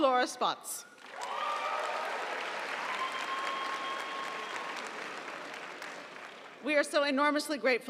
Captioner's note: audience applauding; audience cheering